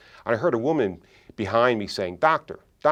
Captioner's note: none